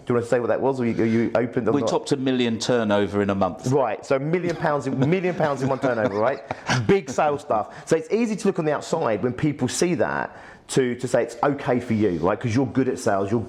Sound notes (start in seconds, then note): 6.4 laughs